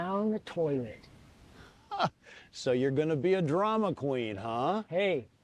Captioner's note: laughs